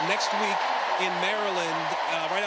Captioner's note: cheers and applause